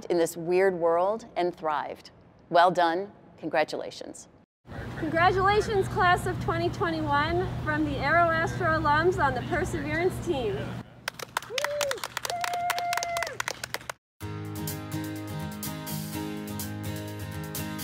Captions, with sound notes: in this weird world and thrived. Well done, congratulations. - Congratulations, class of 2021 from the AeroAstro alums on the Perseverance team. (clapping) (upbeat music)